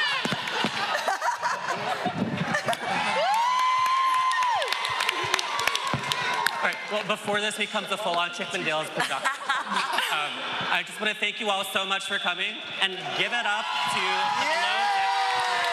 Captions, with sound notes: [cheers and applause] Well before this becomes a full-on Chippendales pickup. Um, I just want to thank you all so much for coming and give it up to "Below Deck."